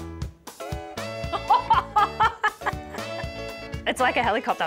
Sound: laughs

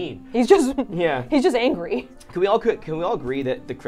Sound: laughs

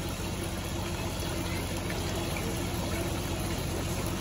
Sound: water flowing, koi splashing

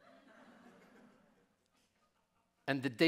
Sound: audience laughing

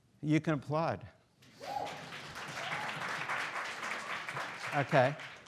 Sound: students applauding

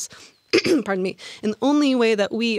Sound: coughs

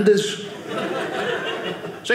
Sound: audience laughing

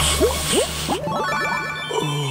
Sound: puffing noise

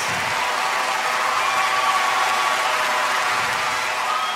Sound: audience cheers

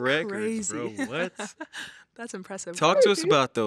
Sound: laughs

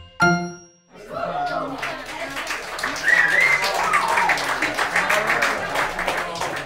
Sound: audience cheering and applauding

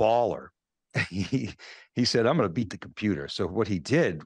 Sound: chuckling

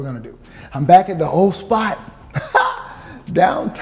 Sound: chuckles

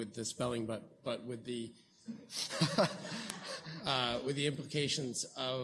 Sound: laughs

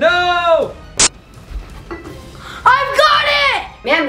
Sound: static discharging

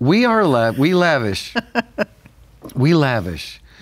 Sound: laughs

